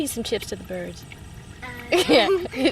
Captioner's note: giggles